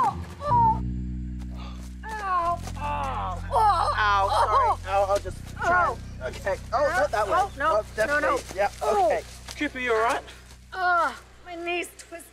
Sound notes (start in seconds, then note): 0.2 Cooper groans; 0.2 bird squawks; 4.5 Cooper screams